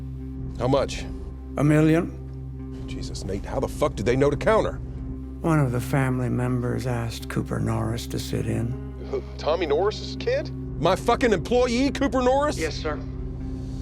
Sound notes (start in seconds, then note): 9.6 on phone; 12.5 on phone